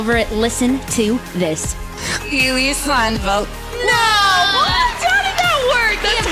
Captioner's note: recording plays